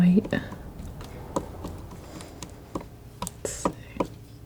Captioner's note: scratching